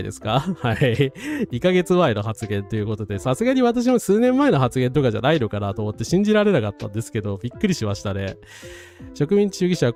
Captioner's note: laughs; gasps